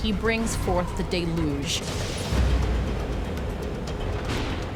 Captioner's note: thunder rumbling